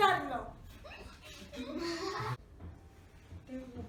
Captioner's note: kids laugh